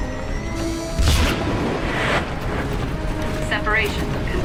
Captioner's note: explosion; voiceover